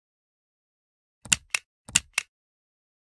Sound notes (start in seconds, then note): 0.0 sound of clicks